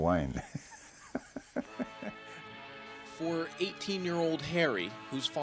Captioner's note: laughs